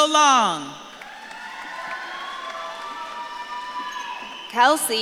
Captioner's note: audience claps and cheers